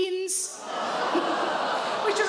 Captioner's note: audience groans